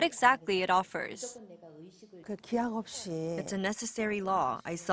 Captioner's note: Korean